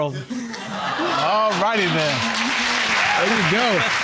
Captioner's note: audience exclaiming; all applauding